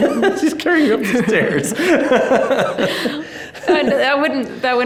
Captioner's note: both laughing amusingly; laughing